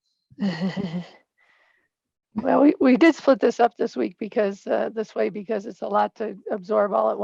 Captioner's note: laughs